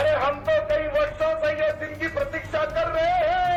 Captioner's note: speaking hindi